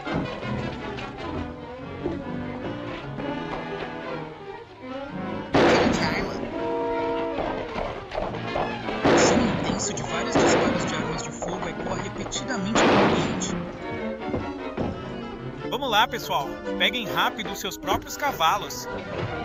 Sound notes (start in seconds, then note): 5.5 gunshot; 9.0 gunshots